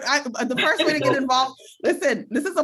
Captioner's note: chuckles